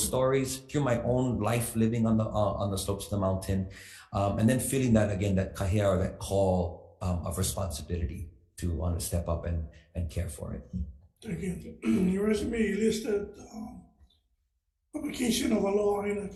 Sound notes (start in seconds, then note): 6.2 speaks foreign language